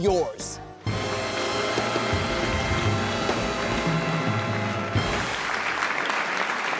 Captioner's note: intense jazz music; audience applauding